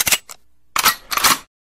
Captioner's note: gun cocks; shooting